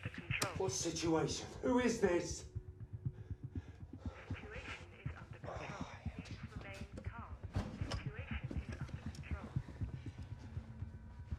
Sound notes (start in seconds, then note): 4.1 intercom voice